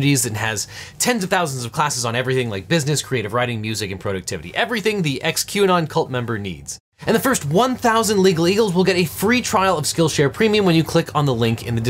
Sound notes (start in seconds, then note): none